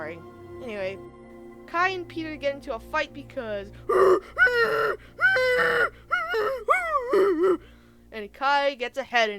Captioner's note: insert audio of monkey noises